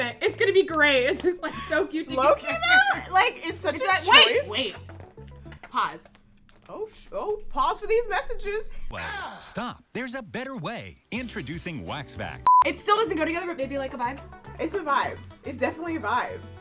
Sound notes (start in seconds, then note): 12.4 beep